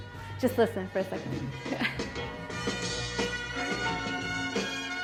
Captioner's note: laughs